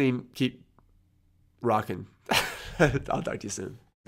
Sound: laughs

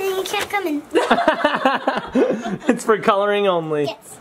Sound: laugh

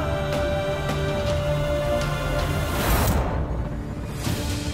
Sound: emotional vocalising

